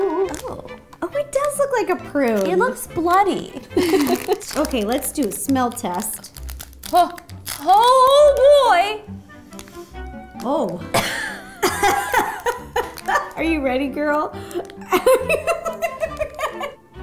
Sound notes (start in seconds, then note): 3.7 both giggle; 9.1 sniffs; 10.9 coughs; 11.0 laughs; 14.8 laughs